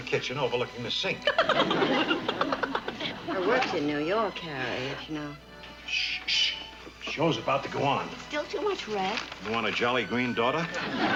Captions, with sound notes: overlooking the sink. (laughing) Her work's in New York, Harriet, you know. (shushing) The show's about to go on. It's still too much red. You want a jolly green daughter?